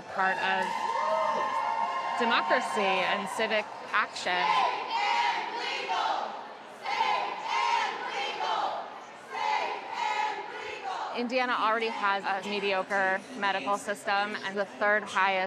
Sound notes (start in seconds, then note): 0.0 crowd cheering; 5.9 chanting